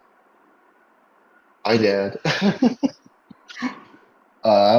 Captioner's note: laughs